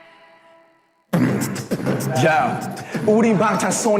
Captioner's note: beatboxes